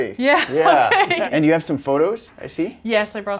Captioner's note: laughing